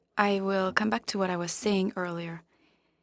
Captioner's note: speaking French